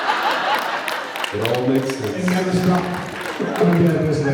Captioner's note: laughs; applauds; laughs